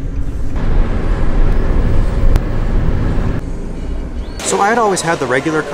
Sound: car engine revving

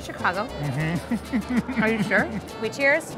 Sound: laughing

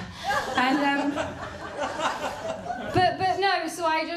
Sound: laughter

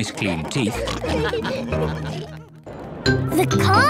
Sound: all laugh

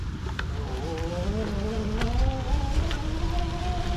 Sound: bicycle roaring

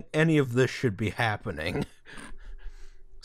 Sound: laughter

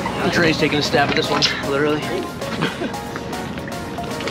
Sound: chuckles

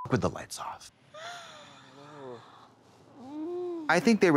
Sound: gasps

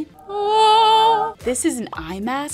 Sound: mimicking ethereal music

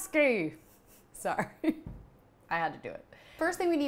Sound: laughs

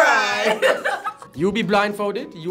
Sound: laughing

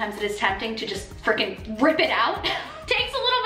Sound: giggles

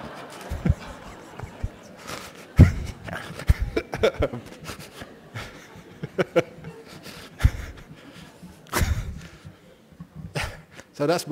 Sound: laughter, laughs

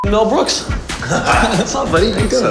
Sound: laughs

